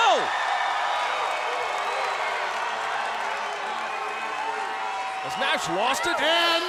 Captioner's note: crowd cheering